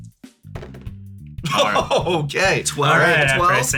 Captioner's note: laughs